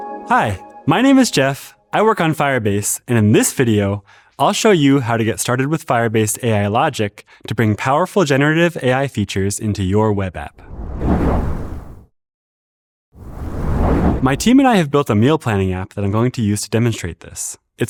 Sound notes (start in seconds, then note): 10.9 whoosh